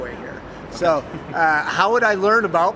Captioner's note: laughs